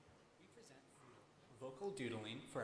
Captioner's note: voiceover